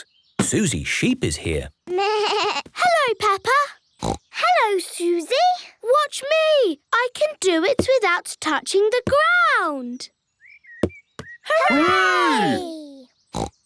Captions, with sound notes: Suzy Sheep is here. - Baa! Hello Peppa! (snorts) - Hello Suzy! - Watch me! I can do it without touching the ground. - Hooray!